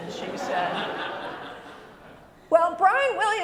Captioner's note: laughter